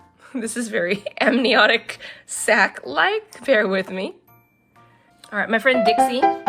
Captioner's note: laughs; old timey piano plays